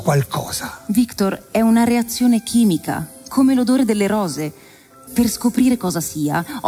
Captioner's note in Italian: voce di donna fuori campo